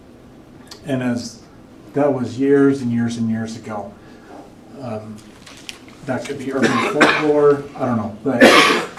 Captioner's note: clears throat